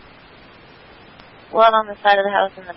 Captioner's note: radio traffic